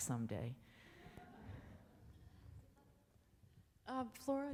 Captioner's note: audience laughs